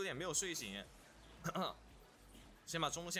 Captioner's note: coughs